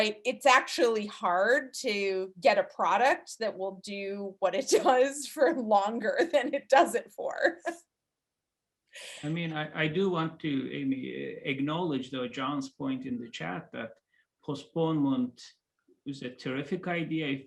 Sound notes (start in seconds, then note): 7.6 laughing